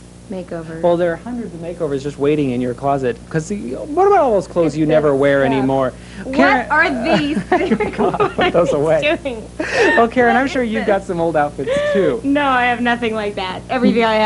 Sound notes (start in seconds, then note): 6.8 laughing